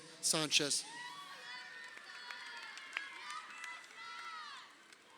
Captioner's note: crowd cheering